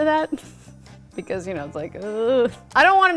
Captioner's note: groans